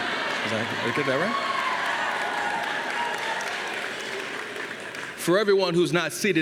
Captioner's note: students cheering